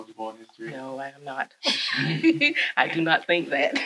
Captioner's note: chuckles